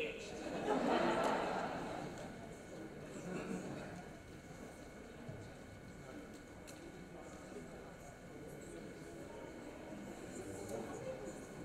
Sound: background talking

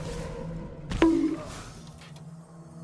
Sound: bonk Sound effect

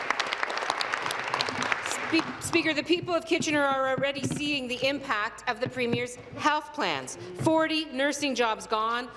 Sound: applause

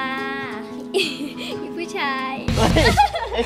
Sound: chuckles

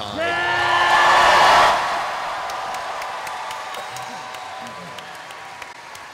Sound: cheering

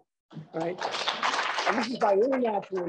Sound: applause

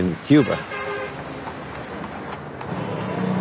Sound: horn honks

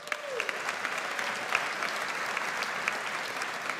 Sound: audience applauds

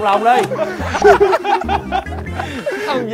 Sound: laugh so hard

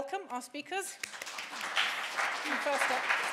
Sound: audience applauding

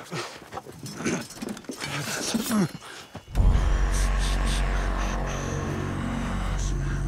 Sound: both huffing; dramatic music; weapons clanging

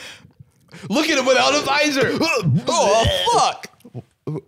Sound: gasping, gagging

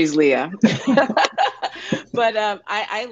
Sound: laughs

